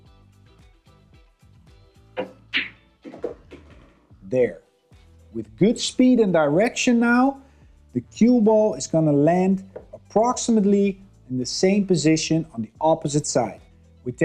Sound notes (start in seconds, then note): 0.2 upbeat music; 3.0 balls clanging